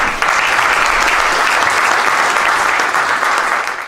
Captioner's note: applause